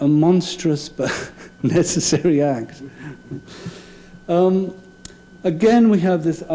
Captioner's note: laughing